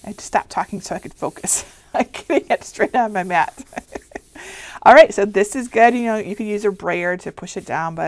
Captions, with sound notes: I just stopped talking so I could focus. I can't get straight on my mat. (laughs) All right, so this is good. You can use a brayer to push it down,